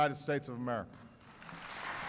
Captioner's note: applause